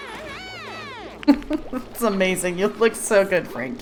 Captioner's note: laughs